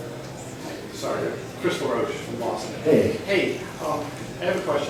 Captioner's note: voiceover